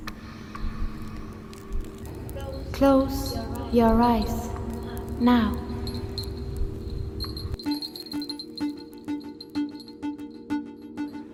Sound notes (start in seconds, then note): 0.1 tapping echos; 5.3 echos; 6.0 bells; 7.3 electronic beeping; 11.1 beeping continues rhythmically